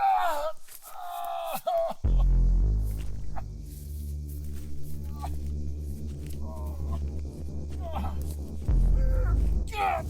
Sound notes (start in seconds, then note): 4.1 struggling groans